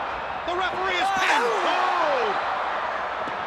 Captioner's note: crowd cheering